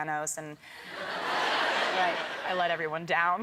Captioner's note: crowd members laughing